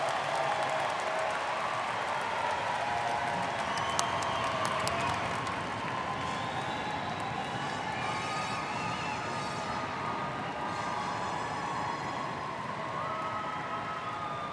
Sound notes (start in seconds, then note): 5.4 students cheering and applauding